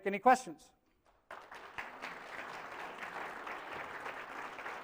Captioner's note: applause